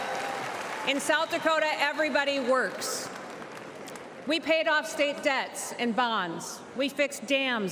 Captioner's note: cheers and applause